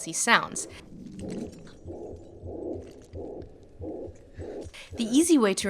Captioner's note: low, muffled rumbling and heartbeat